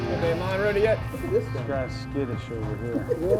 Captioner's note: voiceover